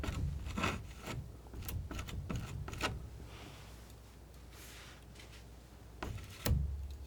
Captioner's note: scratching